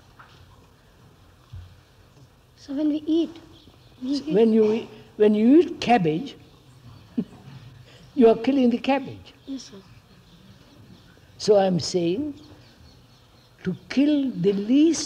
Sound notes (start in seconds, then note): 7.0 laughs